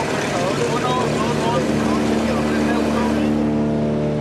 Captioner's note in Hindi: स्पैनिश बोलते हुए